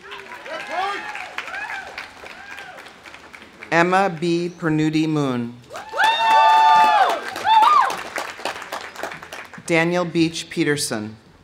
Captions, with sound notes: (audience cheering) (audience applauding) Emma Bee Pernudi-Moon. (audience cheering) (audience applauding) Daniel Beach Peterson.